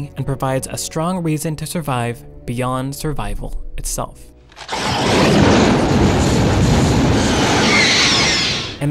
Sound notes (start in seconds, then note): 4.5 fire blaring; 7.3 alien screeching